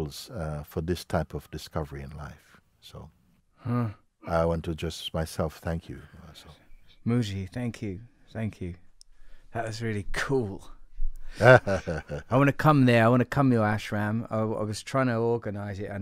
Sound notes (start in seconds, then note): 11.4 Mooji lacht